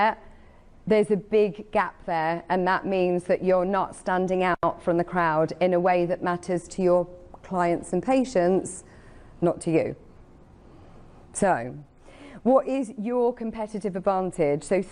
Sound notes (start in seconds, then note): none